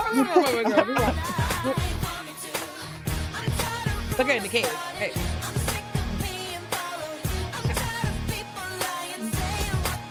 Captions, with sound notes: Y'all just wait, wait, wait, wait. (laughs) (upbeat music) Put it in the cage. Okay. (upbeat music) (upbeat music)